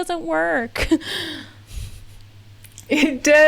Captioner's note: laughs